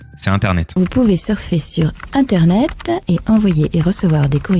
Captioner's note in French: voix off publicité